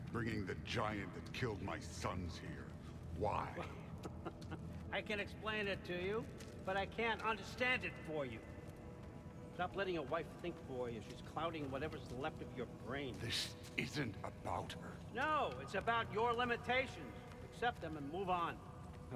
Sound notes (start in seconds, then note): 3.5 laugh